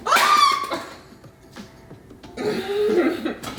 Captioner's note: shouting; laughing